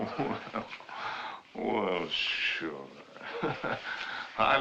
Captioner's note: chuckling